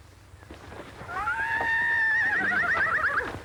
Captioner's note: neigh